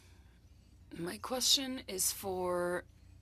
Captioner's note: speaking French